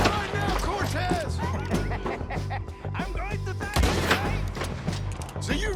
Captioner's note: laughs